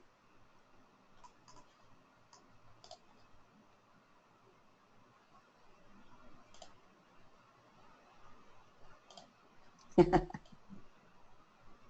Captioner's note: silence